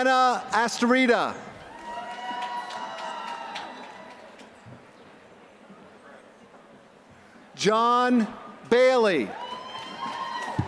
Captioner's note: applause; applause